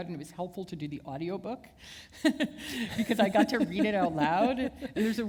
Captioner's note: chuckle